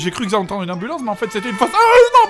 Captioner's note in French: sirène